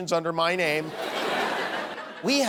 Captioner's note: laughter